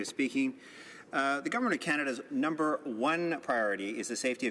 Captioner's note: speaking Alternate Language